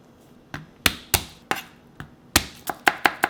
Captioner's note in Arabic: بقصف سكين على الثوم